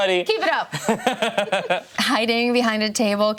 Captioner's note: laughing